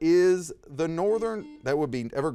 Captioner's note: buzzer dings